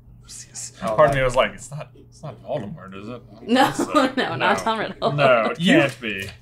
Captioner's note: laughs